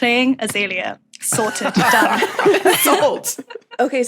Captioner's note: others laughing